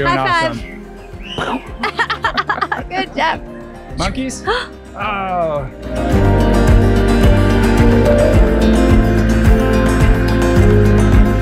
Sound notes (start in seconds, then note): 1.4 laughing; 6.2 mellow string music